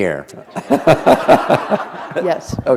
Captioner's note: laughter